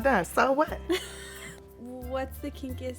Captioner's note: Esther laughs